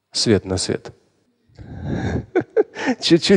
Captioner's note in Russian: Смеется